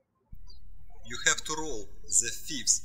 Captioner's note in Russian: птички щебечут